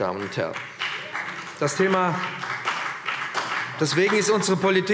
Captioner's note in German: Beifall BÜNDNIS 90/DIE GRÜNEN und vereinzelt CDU